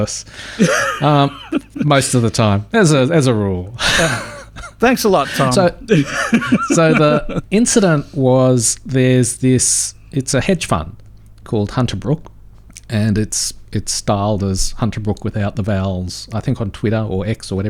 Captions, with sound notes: most of the time, as a rule. Thanks a lot Tom. (Laughing) So the incident was there's this, it's a hedge fund called Hunter Brook. And it's styled as Hunter Brook without the vowels, I think on Twitter or X or